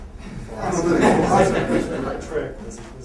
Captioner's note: laughter